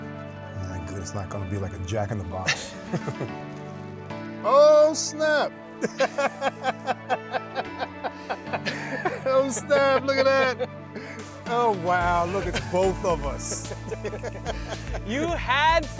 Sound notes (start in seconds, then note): 5.8 laughs; 12.0 laughs